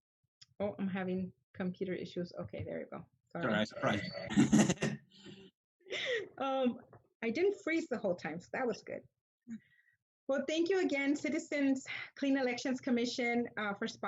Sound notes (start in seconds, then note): 3.5 both laugh